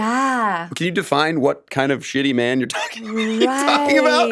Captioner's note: laughs